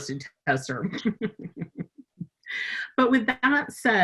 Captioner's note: laughing